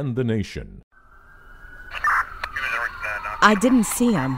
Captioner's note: sirens wailing